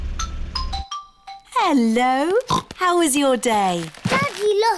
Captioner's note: oinks